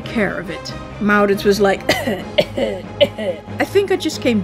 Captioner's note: cough-cough